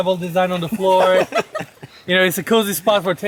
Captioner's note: people laughing